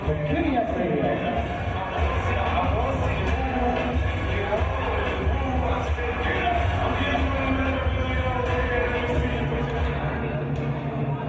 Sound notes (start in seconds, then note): 2.1 audience cheering